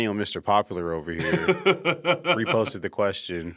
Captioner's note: chuckles